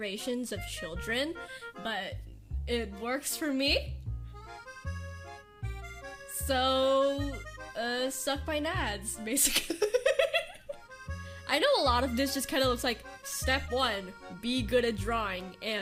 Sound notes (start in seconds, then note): 9.4 laughs